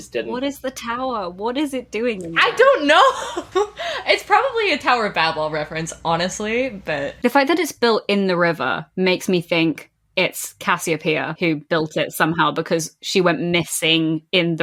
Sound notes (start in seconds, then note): 2.4 laughing